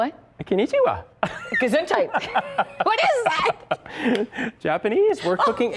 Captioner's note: laughter